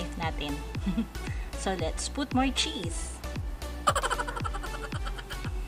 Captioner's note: laughing